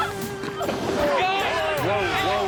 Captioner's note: splash